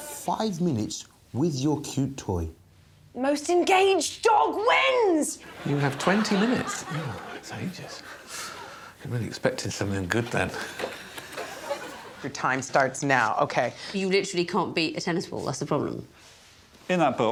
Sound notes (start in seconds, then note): 3.9 exclaims; 5.4 audience laughing; 9.8 audience tittering